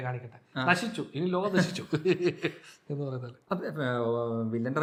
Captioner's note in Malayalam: പൊട്ടിച്ചിരി